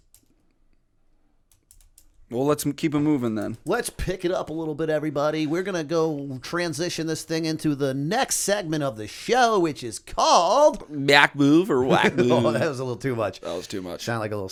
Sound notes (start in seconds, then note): 11.9 chuckle